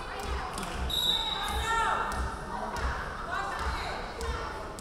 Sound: referee whistling

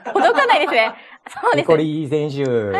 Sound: laughs

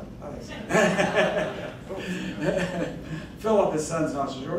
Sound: laughing

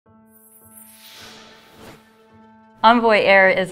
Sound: gentle music; air whooshing

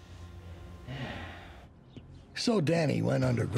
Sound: sighs

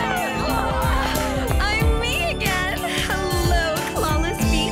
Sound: cheering

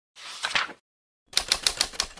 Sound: page flips

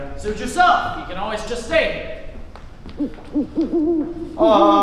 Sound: owls hoot among creepy woods ambience

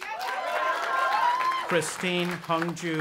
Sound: audience applauding and cheering

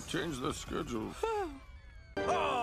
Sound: exhales

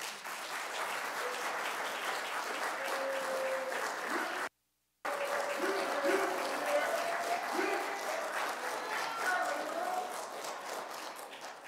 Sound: audience applauds and cheers; cheers fade

